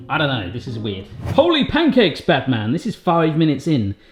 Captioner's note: air whooshing